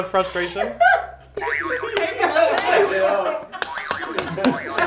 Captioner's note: buzzer beeps